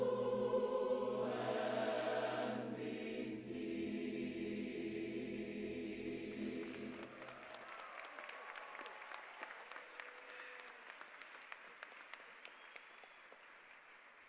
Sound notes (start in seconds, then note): 6.3 applause